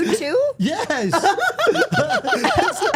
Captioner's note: Steph laughing